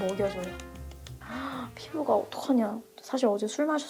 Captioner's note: sigh